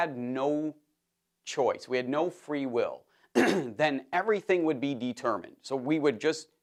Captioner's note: cough